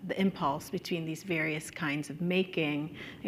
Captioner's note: none